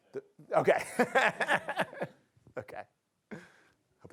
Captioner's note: laughter